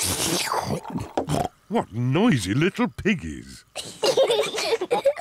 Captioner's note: both slurping